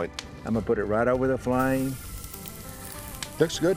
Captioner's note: steak sizzles